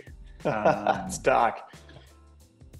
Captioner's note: laughing